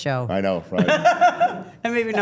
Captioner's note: laughing